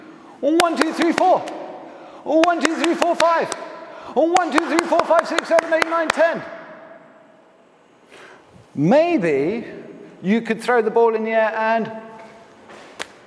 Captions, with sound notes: 1, 2, 3, 4! (clapping) 1, 2, 3, 4, 5! (clapping) 1, 2, 3, 4, 5, 6, 7, 8, 9, 10! (clapping) Maybe, you could throw the ball in the air and... (spin then claps)